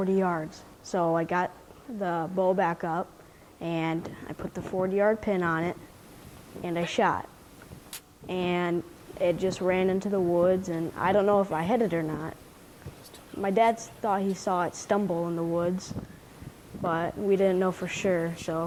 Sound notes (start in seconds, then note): 8.5 bow popping; 13.6 father whispering